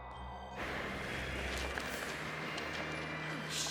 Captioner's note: hinges creak; wind howling